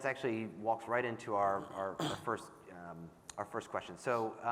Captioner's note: clears throat